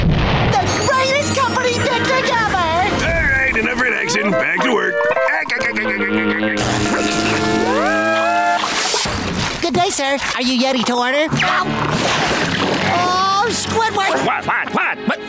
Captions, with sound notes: The greatest company picnic ever! All right enough relaxing, back to work. [laughing] Good day sir, are you yeti to order? Ah! -Oh Squidward! -What what what, huh?